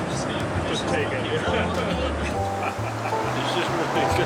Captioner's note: laughing